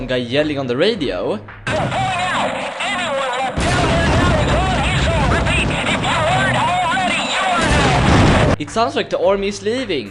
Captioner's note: some guy on the radio yells, I can barelly hear what he's saying